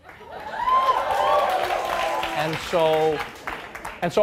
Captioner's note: audience cheering and applauding